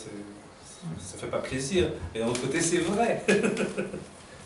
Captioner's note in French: rires